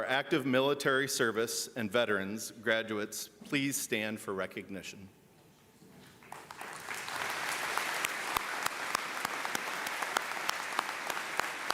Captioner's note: applause